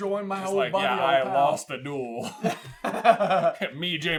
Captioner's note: laughter